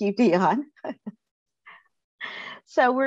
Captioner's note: chuckles